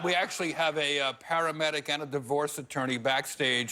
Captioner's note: laughter